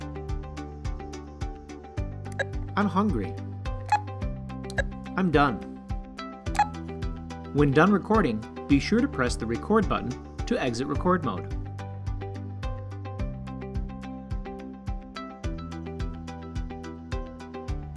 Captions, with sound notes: (beep) I'm hungry. (beep) I'm done. (beep) When done recording, be sure to press the record button to exit record mode. (upbeat music)